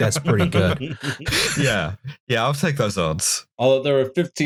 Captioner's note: laughter